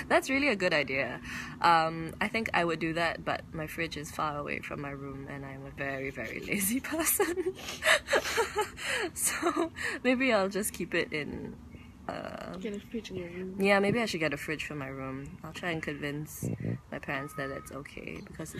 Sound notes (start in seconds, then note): 8.5 laughs